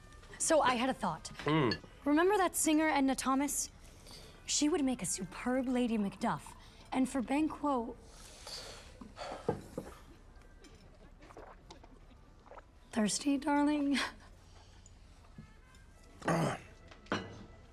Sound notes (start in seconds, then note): 9.1 sighs; 16.2 clears throat